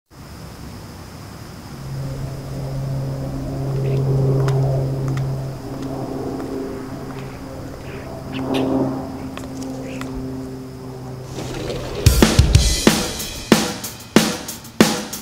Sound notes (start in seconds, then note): 0.7 crickets chirping; 1.9 airplane whirring; 12.1 upbeat rock music